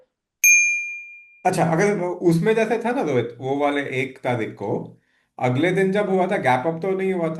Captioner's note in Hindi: घंटी की आवाज़